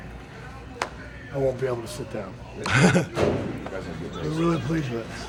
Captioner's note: chuckles